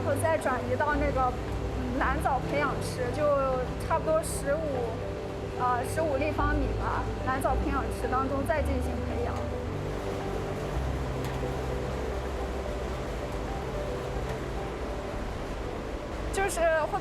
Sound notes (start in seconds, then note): 0.0 speaking chinese